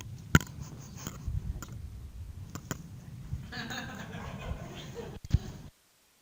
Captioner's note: laughter